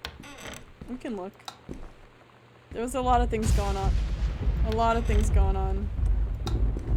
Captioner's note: thunder